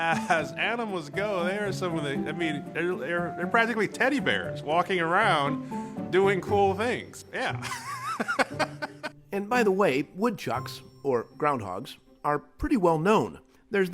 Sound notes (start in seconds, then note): 7.6 laughs